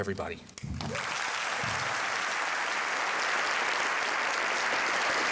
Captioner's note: applause